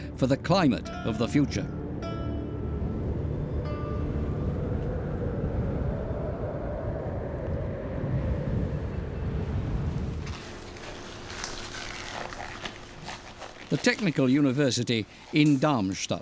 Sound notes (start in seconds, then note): 3.1 wind howling; 10.2 gloves squeaking